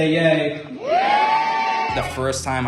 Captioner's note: group shouting "yay"